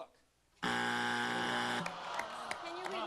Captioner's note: buzzer